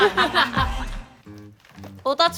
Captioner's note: rustling